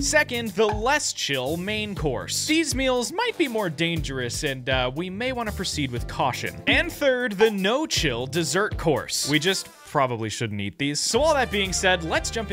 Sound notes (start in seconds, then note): none